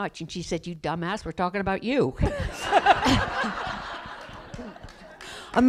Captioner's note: laughter